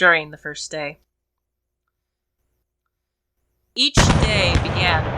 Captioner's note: sound of artillery bombardment and sad song